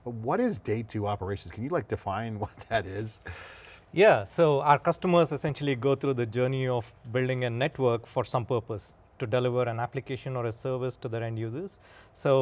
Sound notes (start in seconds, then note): 2.3 chuckling